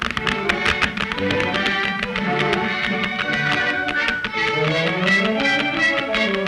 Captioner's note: horse hooves clomping; gentle music